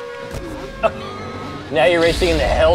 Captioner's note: wheezed Laughter